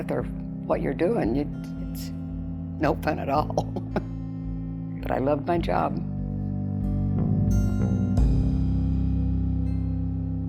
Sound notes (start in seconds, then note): 3.4 chuckles; 6.5 gentle music